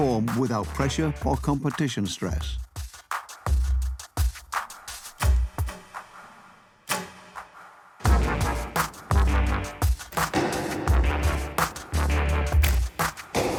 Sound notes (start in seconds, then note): 5.5 arrows firing; 7.8 arrows striking target